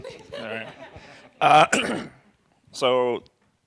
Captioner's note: laughter